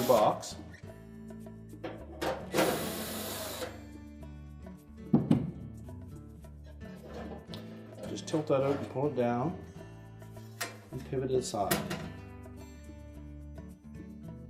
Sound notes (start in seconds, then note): 2.5 drilling noise